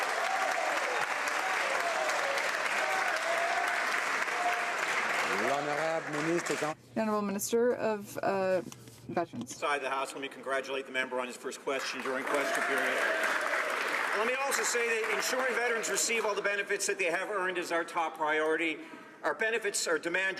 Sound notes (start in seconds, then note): 7.4 some applause